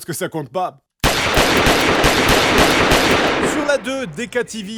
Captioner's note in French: bruits d'armes à feu